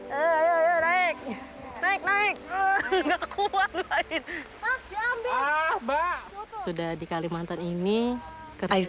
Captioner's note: speaking in foreign language